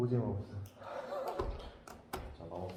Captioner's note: laughing in dismay